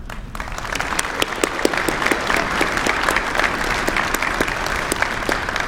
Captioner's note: applause